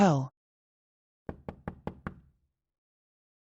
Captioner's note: knock, knock, knock